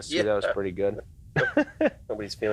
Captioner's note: laughs